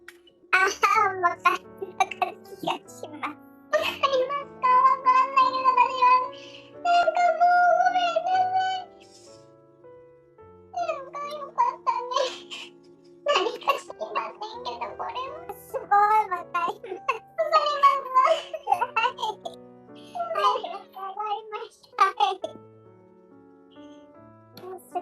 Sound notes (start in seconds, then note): 10.7 tears; 16.6 laughs